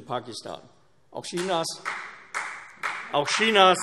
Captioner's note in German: Beifall CDU